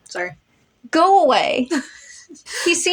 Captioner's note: laugh